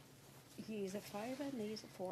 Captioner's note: speaking French